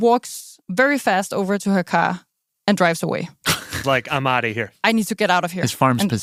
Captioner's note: laughs